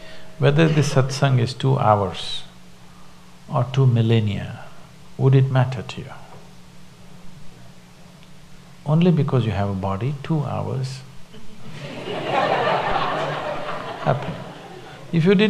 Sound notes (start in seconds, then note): 11.3 laughter; 13.9 笑聲